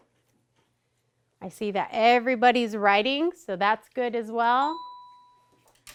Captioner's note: ding